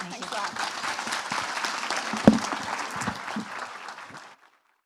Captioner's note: applause